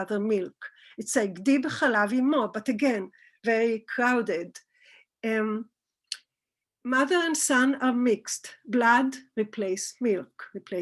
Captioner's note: Hebrew